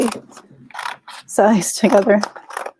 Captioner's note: scissors snipping